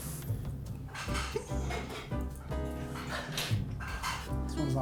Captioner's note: hiccups